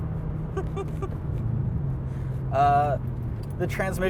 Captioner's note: chuckles